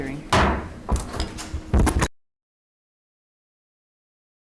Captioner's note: gavel banging